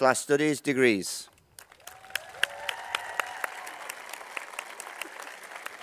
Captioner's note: applause